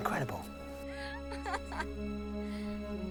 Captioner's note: laughs